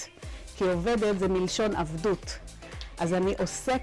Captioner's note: in Hebrew